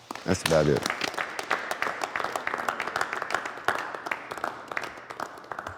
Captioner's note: applause